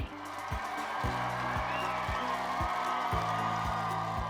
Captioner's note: crowd cheering